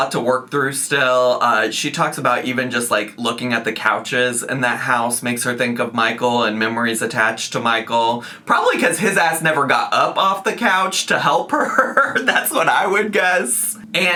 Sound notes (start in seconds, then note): 11.5 laughs